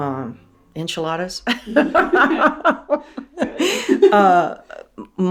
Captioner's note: laughter